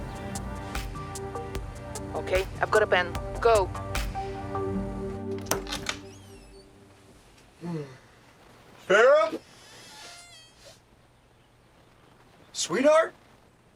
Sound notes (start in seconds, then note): 5.3 door creaks; 7.5 Billy Ray yawns